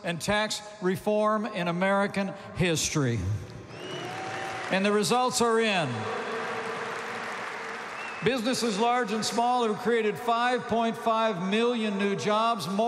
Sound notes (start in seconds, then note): 3.7 applause